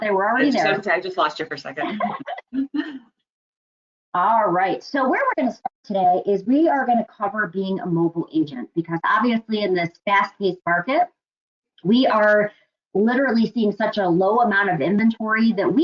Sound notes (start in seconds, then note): 1.8 laughing